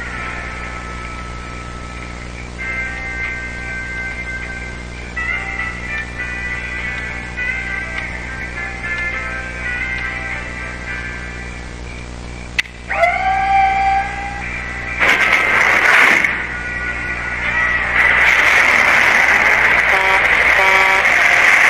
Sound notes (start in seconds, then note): 0.9 tapping; 4.3 clock ticking; 12.8 door opens; 12.8 floor whirs; 18.0 engines revving; 18.0 horn honking